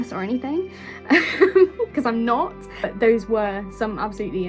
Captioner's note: laughing